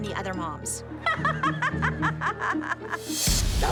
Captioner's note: laughs